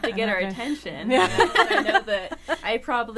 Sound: all laughing

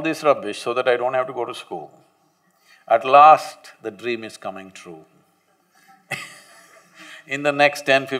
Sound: laughs

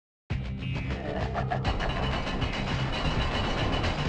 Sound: Venom laughs

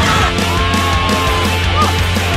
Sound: zombie moans

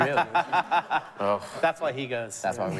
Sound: laughs

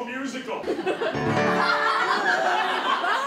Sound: audience laughter

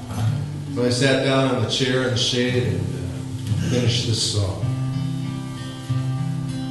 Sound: talking

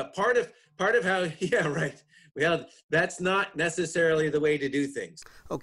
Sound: chuckles

